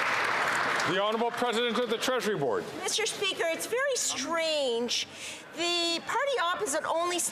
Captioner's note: some Applause